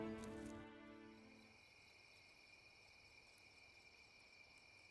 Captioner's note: crickets chirping